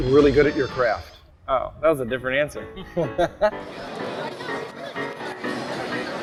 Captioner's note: chuckle